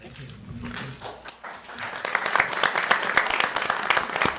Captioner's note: audience applauds